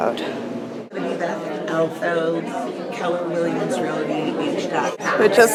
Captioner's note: crowd murmering